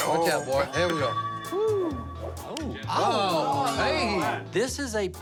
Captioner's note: remarks of amazement